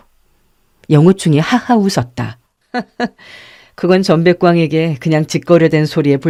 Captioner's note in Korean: 헉 소리